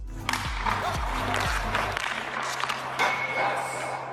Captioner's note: stick slapping